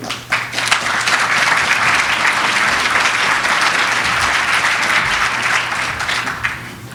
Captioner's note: applause